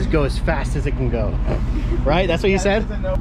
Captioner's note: laughs